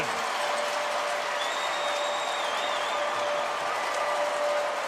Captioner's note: crowd cheering